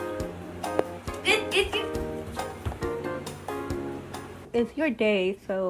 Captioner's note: girl laughing